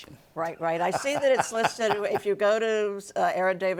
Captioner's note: laughing